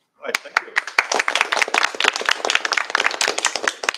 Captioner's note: applause